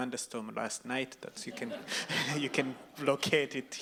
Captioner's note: audience laughs